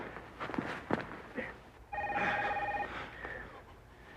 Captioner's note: dering berlanjut